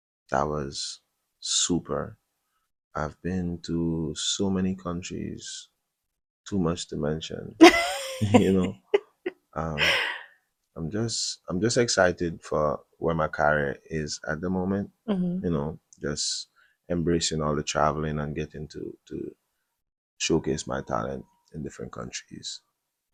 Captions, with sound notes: That was super. I've been to so many countries, too much to mention, [laughter] you know. Um, [gasps] I'm just I'm just excited for where my career is at the moment, you know, just embracing all the traveling and getting to to showcase my talent in different countries.